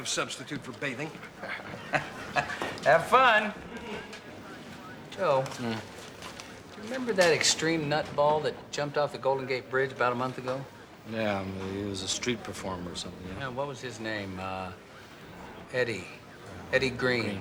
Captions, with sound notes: that cologne is an effective substitute for bathing. (chuckles) Have fun! Joe? Hmm? Do you remember that extreme nut ball that jumped off the Golden Gate Bridge about a month ago? Yeah. He was a street performer or something. Yeah. What was his name? Uh... Eddie. Eddie Green. Green, right, yeah.